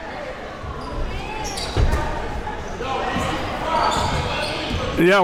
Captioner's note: audience talking